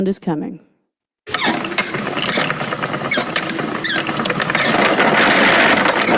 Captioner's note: spinning wheel rattling and creaking